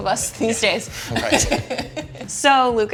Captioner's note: both laughing